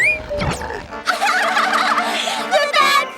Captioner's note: giggling